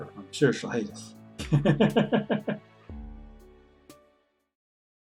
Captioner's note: laughs